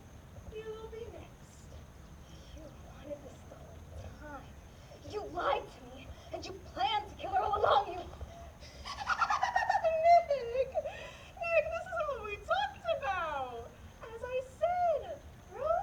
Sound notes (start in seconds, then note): 8.4 maniacal laughter